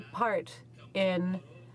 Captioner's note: speaking French